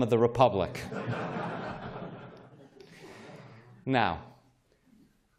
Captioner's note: laughter